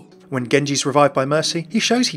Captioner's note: voiceover